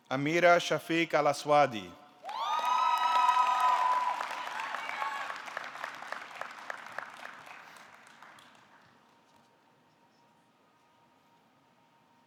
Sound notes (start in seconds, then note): 2.2 audience cheering; 2.2 audience clapping